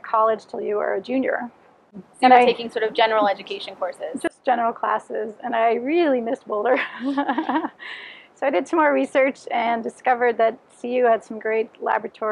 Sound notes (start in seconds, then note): 6.7 laughs